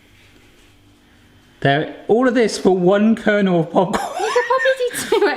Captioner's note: laughs